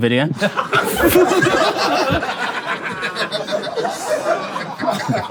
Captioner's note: people in room laughing